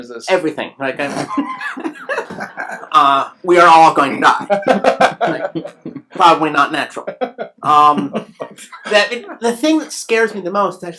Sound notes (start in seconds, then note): 1.2 laughs; 4.4 laughs